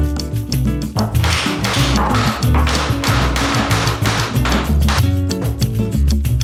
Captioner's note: hammering